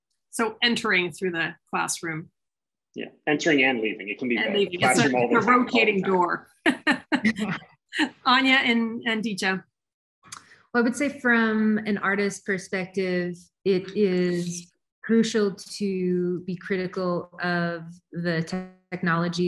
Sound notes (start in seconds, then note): 4.8 guests laughing; 6.9 laughs